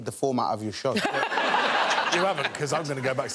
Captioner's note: all laughing